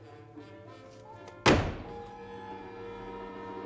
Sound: door slam

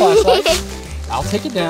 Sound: assistant giggles

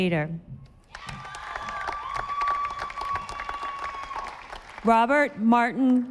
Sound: audience applauding

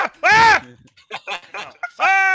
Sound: laughs

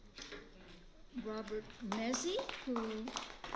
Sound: applause

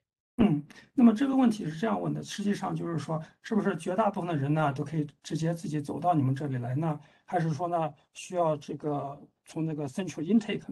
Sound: speaks in Mandarin

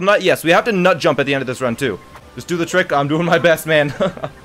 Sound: laughs

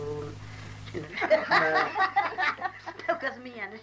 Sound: hearty laughter

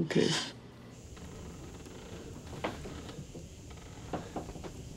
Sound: creaking footsteps

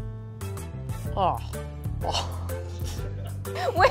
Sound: groaning

